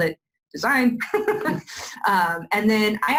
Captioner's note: laughs